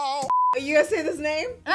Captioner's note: beep